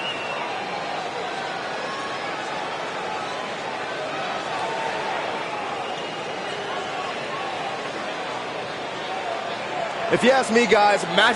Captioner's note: crowd raves